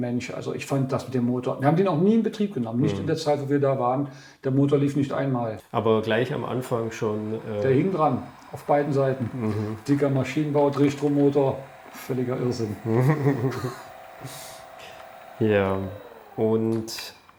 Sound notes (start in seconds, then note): 12.7 laughs